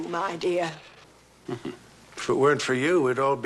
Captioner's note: chuckles